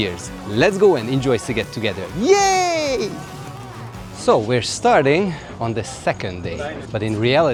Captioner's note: cheering and screaming